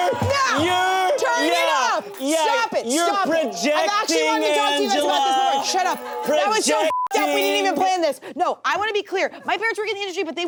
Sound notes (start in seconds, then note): 6.8 beep